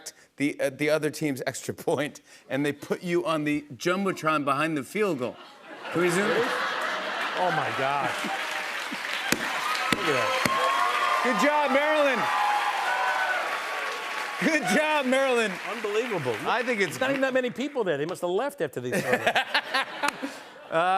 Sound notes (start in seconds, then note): 5.3 laughter; 8.7 applause; 11.9 cheers and applause